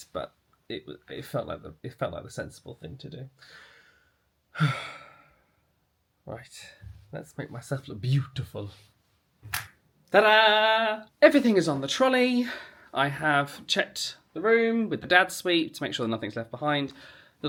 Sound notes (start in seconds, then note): 4.5 exhales; 9.5 snaps